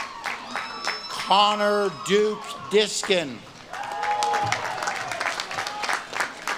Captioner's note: audience claps and cheers